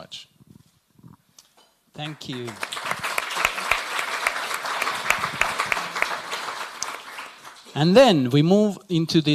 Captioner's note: applause